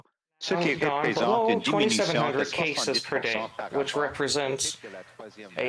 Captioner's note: speaking French